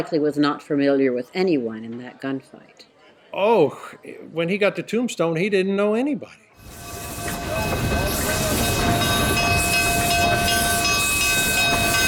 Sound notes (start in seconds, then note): 6.6 train bell ringing